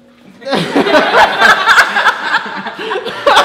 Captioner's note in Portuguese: Risadas